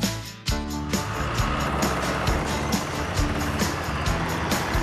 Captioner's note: machines Rumble